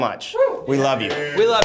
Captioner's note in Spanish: aplausos